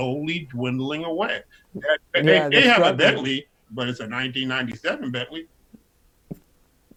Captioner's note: laughs